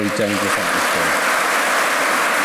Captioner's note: applause